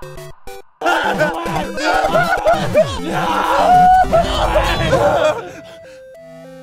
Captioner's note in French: Ian et Anthony s'étreignent tout en criant